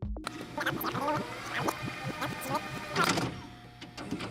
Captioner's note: tape audio rewinding